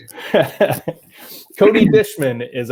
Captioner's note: laughs